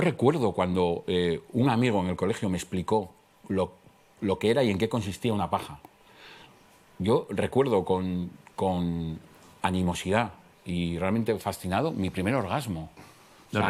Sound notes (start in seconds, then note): none